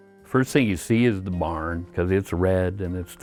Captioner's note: voiceover